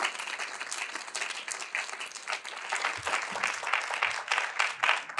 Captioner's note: audience continue applauding